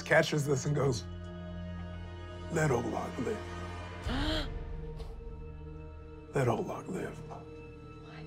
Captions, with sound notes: - Markus catches this and goes, Let Olag live. (gasps) Let Olag live.